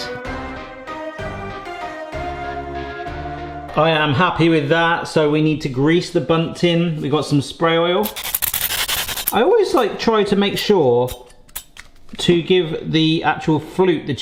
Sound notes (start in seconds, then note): 0.0 curious music; 8.5 oil spattering